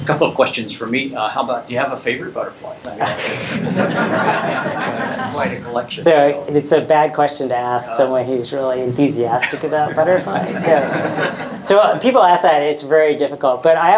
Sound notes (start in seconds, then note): 3.1 audience laughing; 9.4 audience laughing